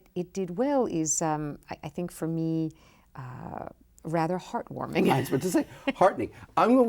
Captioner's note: laughs